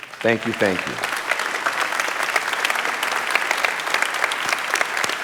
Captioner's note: audience clapping